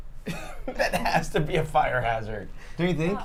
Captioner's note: laughs